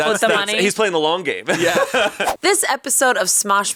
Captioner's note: laughs